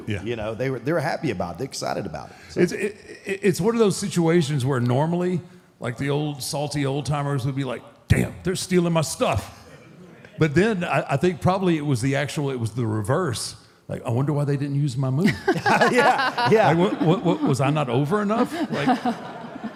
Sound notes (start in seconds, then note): 15.3 Michelle laughs